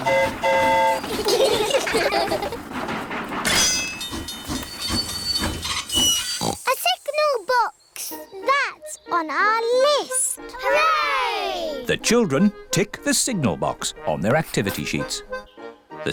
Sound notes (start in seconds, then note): 0.0 train horn toots; 1.0 all giggle; 4.2 tinging; 6.3 oinks